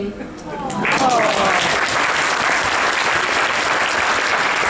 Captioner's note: applause